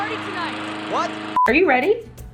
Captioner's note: beeping